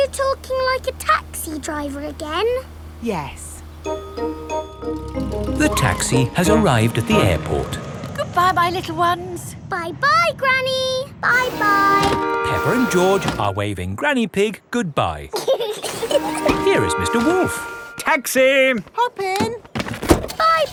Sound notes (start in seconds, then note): 15.3 both laughing